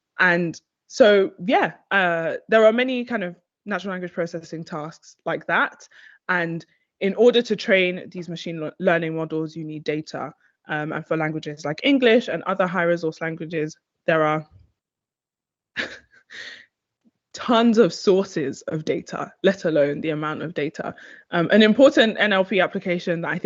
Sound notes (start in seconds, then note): 15.8 chuckles